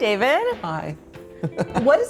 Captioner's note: chuckling